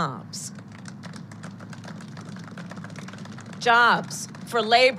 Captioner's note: applause